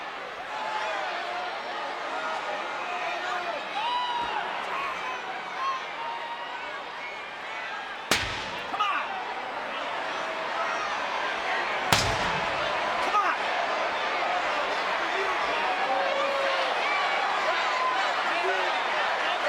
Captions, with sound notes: (chair slams) Come on! (chair slams) Come on! (crowd shouts)